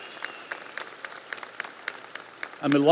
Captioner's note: audience applauds